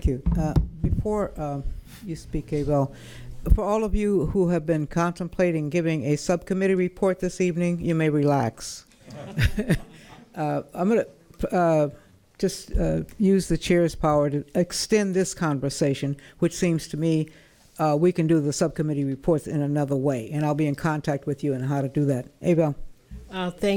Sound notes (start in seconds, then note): 9.0 laughter